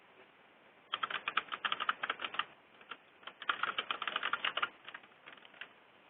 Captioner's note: keyboard clicking